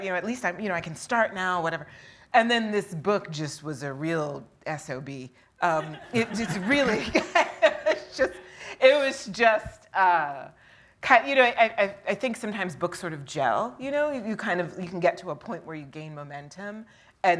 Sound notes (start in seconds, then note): 5.8 laughs; 5.8 audience laughing